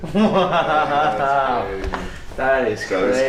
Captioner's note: laughing